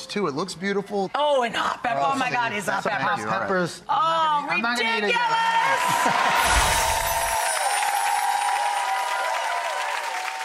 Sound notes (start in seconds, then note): 5.2 cheering; 6.4 twinkling; 6.9 clapping